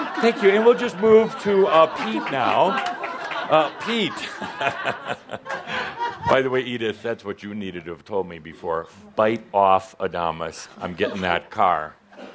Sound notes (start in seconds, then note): 3.2 Adamus chuckles